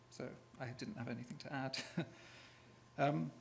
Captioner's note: chuckles